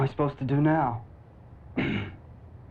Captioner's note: clears throat